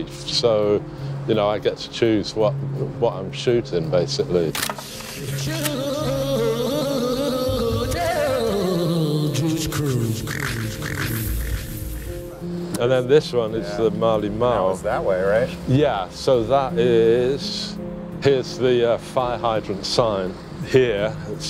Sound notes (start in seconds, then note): 4.5 camera shutter clicking; 5.9 funky music